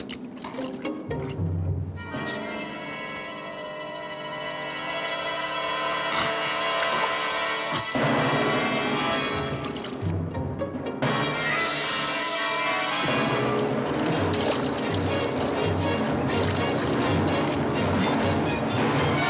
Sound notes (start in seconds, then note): 0.1 straining; 6.1 choking